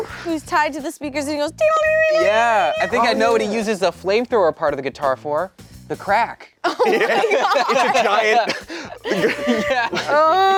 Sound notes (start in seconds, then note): 1.6 imitates guitar riffing sound; 6.7 laughing